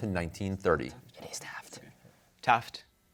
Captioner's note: whispering